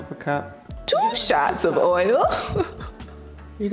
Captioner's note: laughs